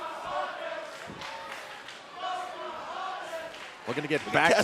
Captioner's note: fans chanting